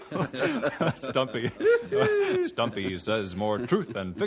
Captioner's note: laughing